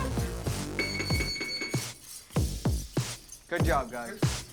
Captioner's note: electric signal beeps